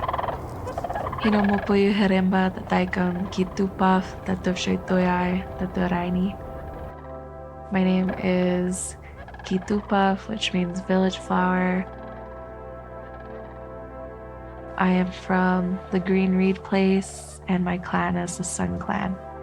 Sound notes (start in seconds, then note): 1.9 non-English speech